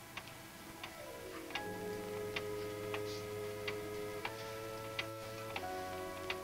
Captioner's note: clock ticks; tense music